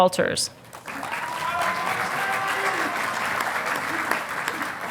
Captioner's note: audience applauding